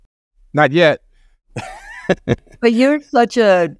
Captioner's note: laughs